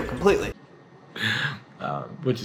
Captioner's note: laughing